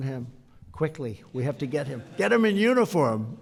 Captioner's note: laughter